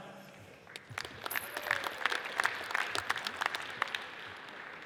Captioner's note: audience applauds